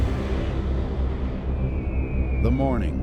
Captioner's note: falling bombs whizzing